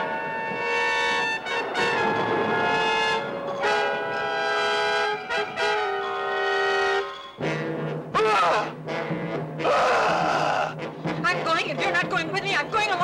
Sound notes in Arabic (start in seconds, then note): 9.6 غاري يصرخ